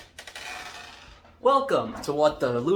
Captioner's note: door opens